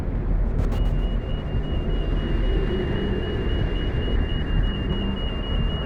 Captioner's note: alarm continues